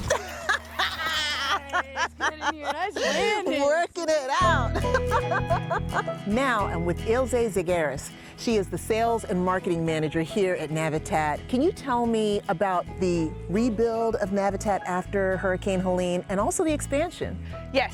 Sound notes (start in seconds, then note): 0.0 laughing